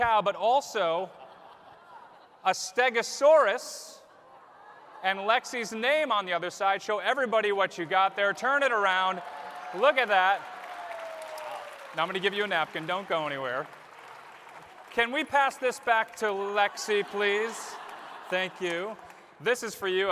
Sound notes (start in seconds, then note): 10.1 applause; 16.6 laughter